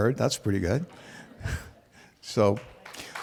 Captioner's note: laughter